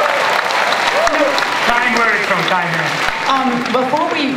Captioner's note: applause; speaker muffled by applause